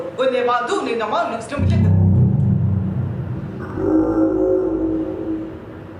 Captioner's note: guttural sounds